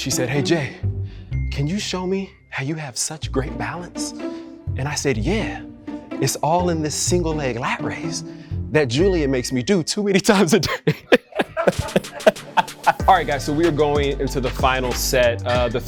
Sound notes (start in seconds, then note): 10.6 Jay and Julian laughs